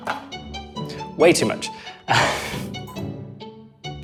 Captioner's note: laughs